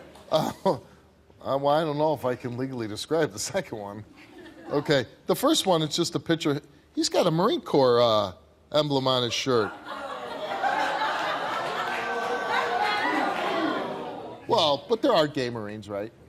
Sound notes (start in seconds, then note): 9.2 audience laughing, yelling